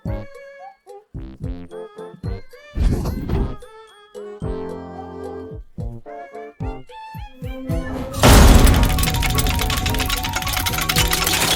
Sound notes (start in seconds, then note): 8.2 wheel dinging